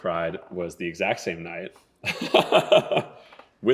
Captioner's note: laughing